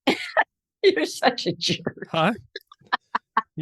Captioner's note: laughing